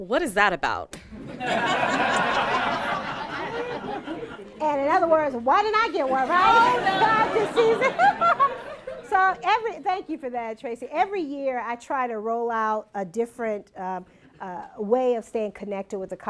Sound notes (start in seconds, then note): 3.2 laughter